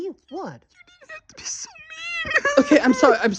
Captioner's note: cries